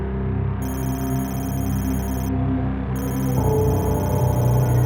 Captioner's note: hacking computer sound